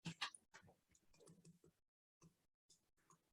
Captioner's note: none